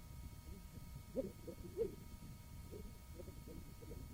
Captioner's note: coughing